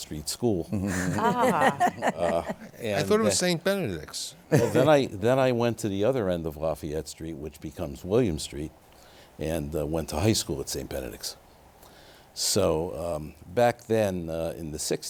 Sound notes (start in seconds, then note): 0.7 laughter